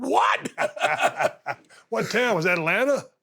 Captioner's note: laughs